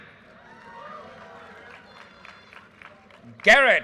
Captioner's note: audience cheers and applause